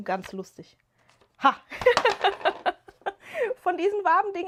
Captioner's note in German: gelächter